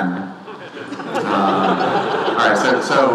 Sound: audience laughing

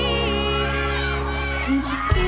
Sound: audience yells and cheers

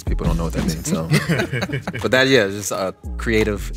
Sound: chuckling

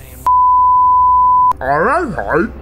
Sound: beeps

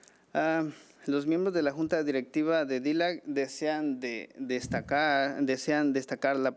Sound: man speaking foreign language

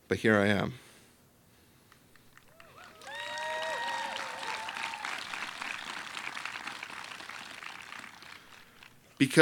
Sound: applause

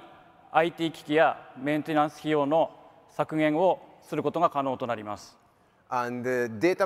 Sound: speaks in foreign language

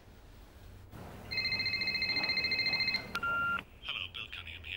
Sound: ringing

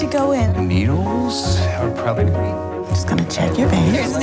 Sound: stammers

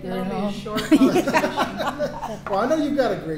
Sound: all laughing

